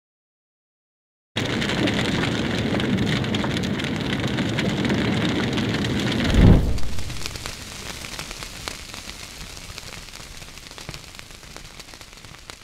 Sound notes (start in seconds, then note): 1.3 fire sound